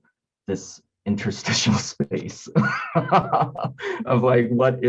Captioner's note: laughing